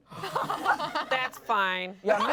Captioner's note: laughs